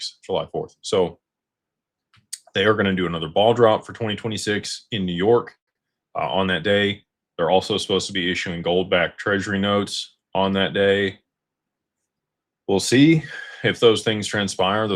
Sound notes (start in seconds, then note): none